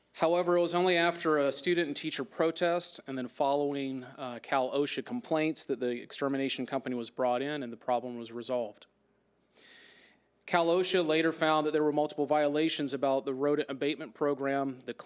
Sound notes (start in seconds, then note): none